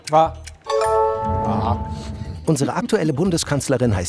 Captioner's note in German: Kichern